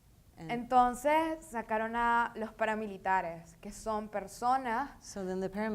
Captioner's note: speaking in foreign language